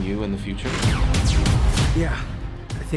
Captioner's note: guns blazing